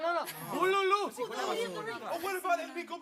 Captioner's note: speaking Spanish; all chattering in foreign language; speaks in Spanish